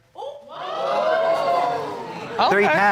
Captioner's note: crowd gasping